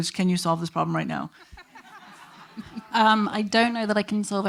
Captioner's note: attendees laughing